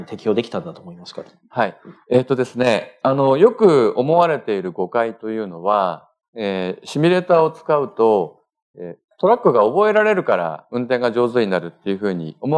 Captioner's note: speaking japanese